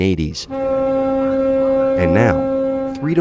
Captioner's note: air horn blares